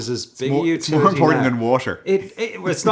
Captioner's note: laughs